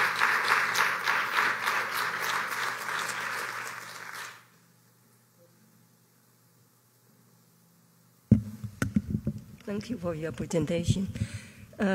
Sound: applause

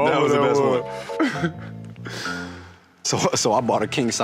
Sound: laughing

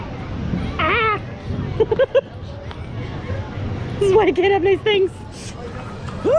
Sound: laughs

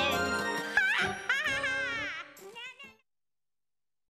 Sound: cackling

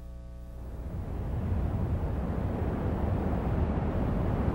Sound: wind blowing

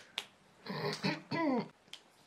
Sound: clears throat

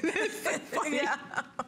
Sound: laughter

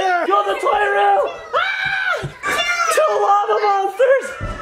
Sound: screams

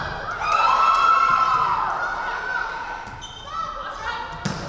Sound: crowd cheering

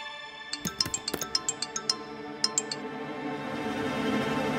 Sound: mobile phone ringing

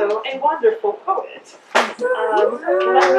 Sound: applause

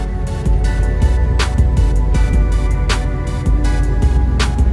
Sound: traffic sounds

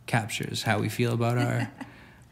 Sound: laughing

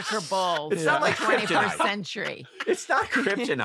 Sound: laughter

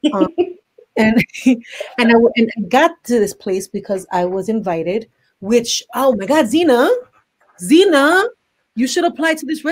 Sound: laughs

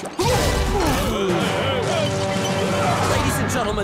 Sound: groaning

